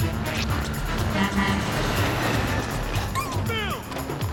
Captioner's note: horn honks